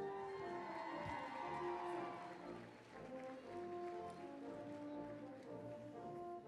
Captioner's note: applause, cheering